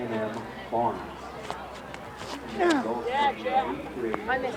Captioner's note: track and field sounds